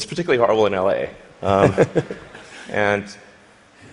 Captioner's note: laughter